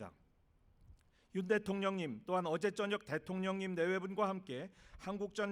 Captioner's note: speaking non-english